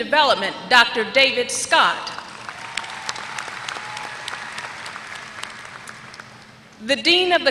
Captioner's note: applause